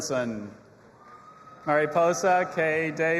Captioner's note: audience applauding and cheering